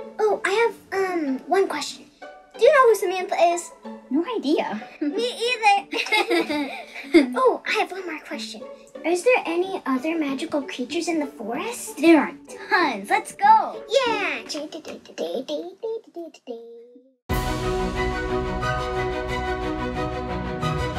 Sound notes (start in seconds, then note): 5.9 both laugh; 15.8 hums; 17.3 riveting orchestral music